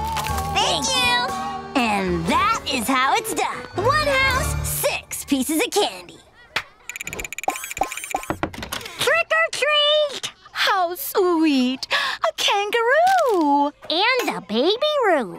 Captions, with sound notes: Thank you. And that is how it's done. One house, six pieces of candy. [knocking] Trick or treat. How sweet, a kangaroo. And a baby roo.